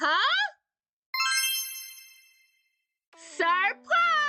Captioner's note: magic chimes